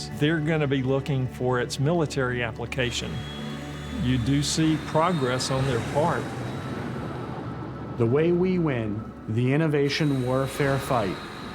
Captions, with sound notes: they're going to be looking for its military application. You do see progress on their part. [moving plane noise] - The way we win the innovation warfare fight